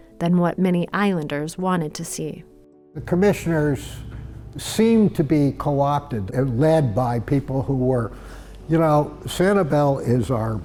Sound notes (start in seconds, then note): none